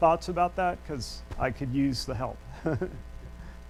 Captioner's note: laughs